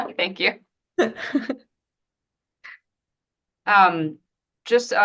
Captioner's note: laughs